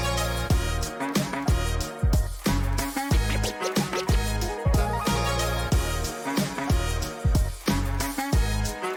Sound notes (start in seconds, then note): 3.0 record scratching